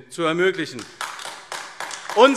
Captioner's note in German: Beifall AfD